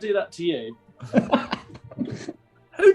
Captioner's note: laughing